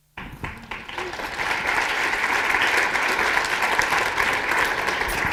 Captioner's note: applause